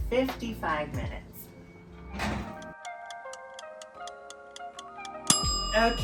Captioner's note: clock ticking